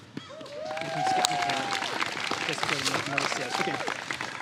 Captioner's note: applause